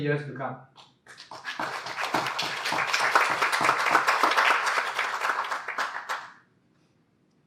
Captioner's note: clapping